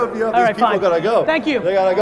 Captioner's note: chuckles